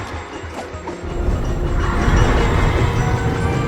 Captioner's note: stammers; children laughing